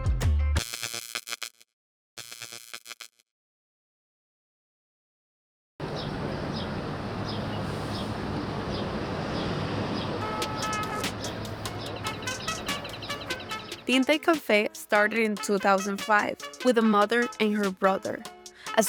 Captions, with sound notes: (bulb buzzing) (birds chirping) (upbeat music) Tinta Y Cafe started in 2005 with a mother and her brother.